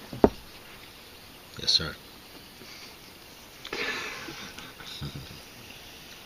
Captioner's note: laughter